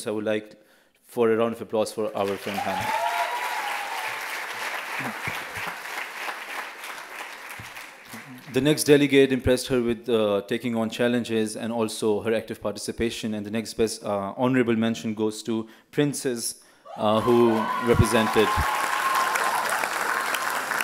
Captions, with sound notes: I would like for a round of applause for our friend. (applause and cheers) The next delegate impressed her with taking on challenges and also her active participation. And the next best, honorable mention goes to Princess, who represented (loud applause and cheers)